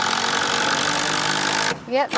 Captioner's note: drill whirring